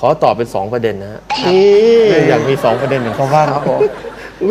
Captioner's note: laughing